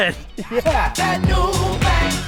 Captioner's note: laughs